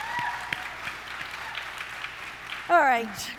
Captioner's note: audience cheering